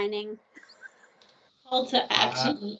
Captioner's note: laughing